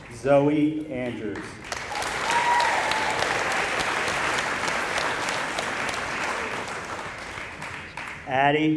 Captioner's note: applause